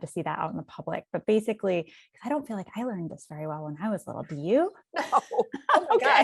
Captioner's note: laughs